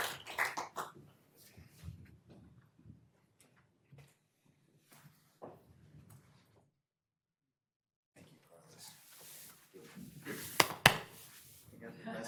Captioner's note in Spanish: aplausos